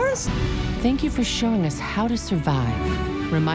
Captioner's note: voice-over